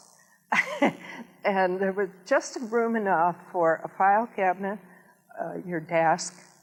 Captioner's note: laughs